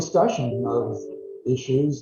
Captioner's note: notification chime